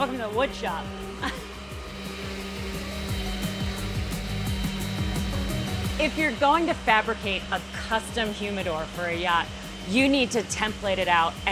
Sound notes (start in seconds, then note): 2.1 machines whirring; 2.1 upbeat music